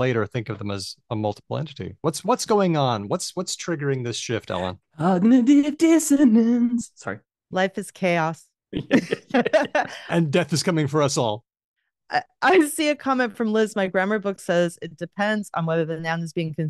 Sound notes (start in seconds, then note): 5.3 singing; 8.7 laughter